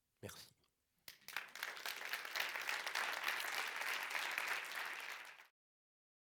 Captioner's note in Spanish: Aplausos